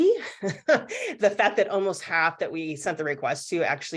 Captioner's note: laughs